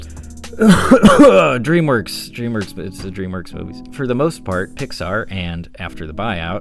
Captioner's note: terrible cough